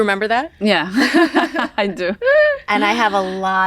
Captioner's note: chuckle